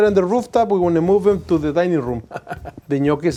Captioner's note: laughs